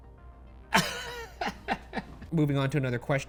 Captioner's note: laughs